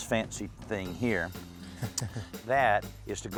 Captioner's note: chuckles